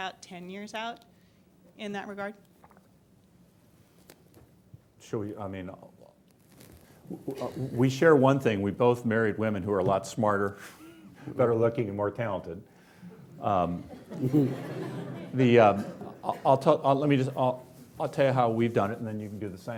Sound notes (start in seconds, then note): 13.1 laughing